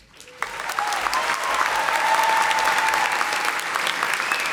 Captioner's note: audience applauding